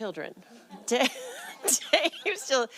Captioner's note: laughter